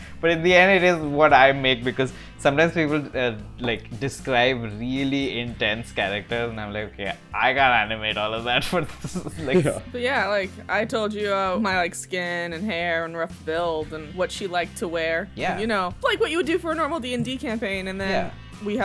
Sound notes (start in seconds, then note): 9.0 laughs